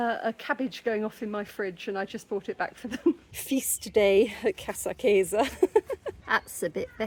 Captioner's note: laughing